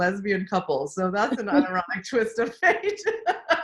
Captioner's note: laughs